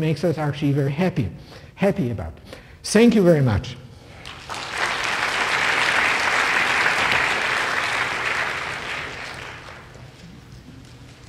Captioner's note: applause